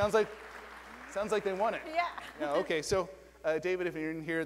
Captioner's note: applause